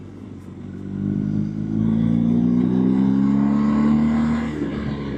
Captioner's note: engine Sound